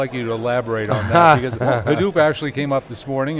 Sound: laughs

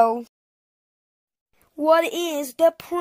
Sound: akward silence

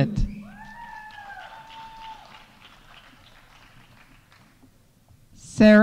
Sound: audience cheering; audience applauding

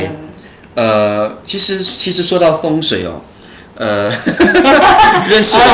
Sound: laughter

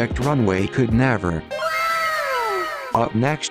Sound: かわいい wow sfx

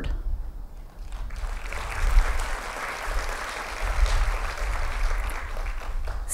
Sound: applause

